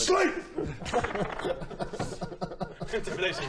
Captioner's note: laughs